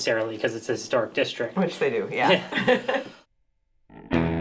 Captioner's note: laughing